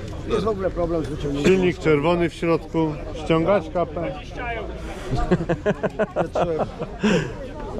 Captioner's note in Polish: śmiech